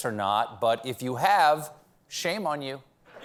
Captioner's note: laughter